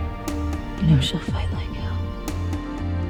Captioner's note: voiceover